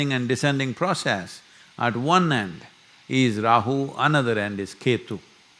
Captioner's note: none